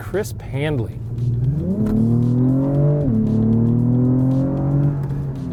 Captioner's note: engine revving